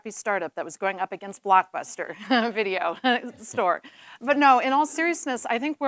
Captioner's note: laughs